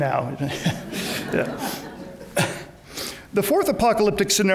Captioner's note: audience laughs